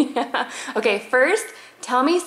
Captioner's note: laughs